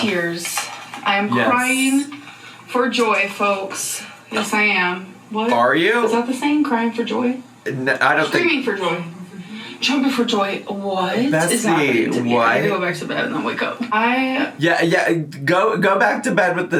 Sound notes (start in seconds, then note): none